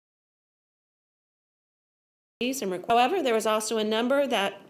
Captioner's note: no audio